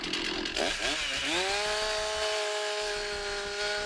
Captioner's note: saw roars